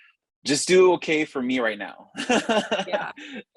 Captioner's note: laugh